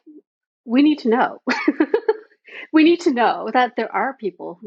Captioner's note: laughing